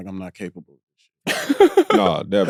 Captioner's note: laughs